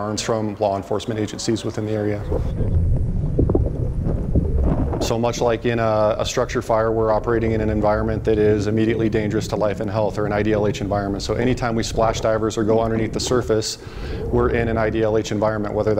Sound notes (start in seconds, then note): 3.1 water gurgling